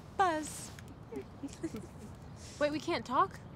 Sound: Queens chuckle

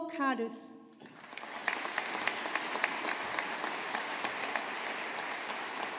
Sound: audience applauding

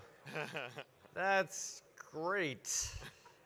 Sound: chuckles

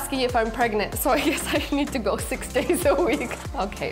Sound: chuckling

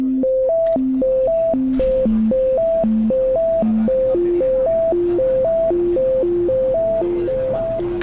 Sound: cafe chatter

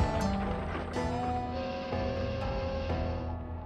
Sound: steam whistle blows

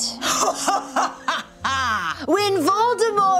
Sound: laughing

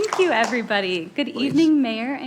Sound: applause

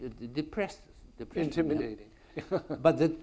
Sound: laughs

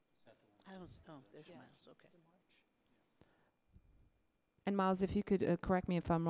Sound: various board members talking quietly

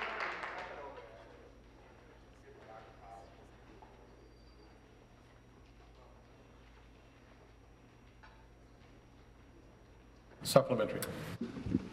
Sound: applause

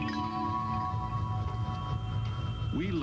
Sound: wind machine and a light, steady whistling sound

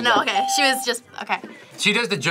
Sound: bell rings

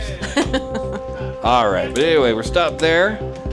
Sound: laughing

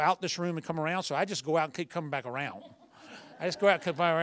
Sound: laughter

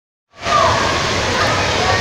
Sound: some kids taking very loudly

